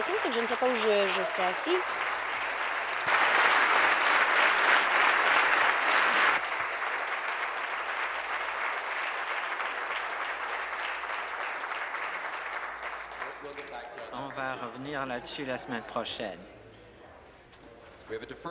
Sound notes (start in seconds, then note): 4.5 applause